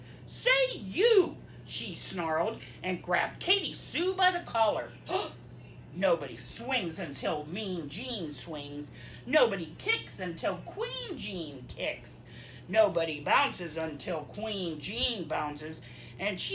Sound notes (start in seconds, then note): 5.0 gasp